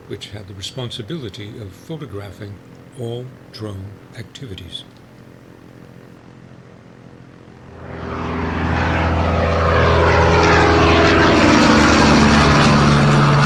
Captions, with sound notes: which had the responsibility of photographing all drone activities. (aircraft roaring)